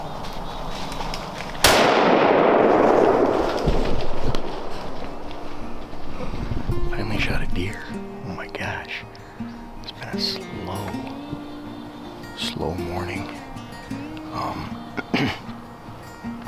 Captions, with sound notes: (guns booms) (cheerful music) Finally shot a deer. Oh my gosh. It's been a slow, slow morning.